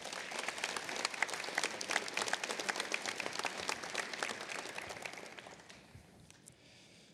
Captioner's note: applause